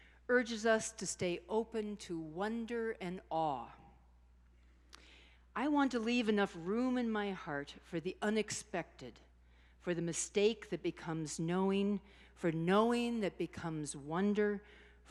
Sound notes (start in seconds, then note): none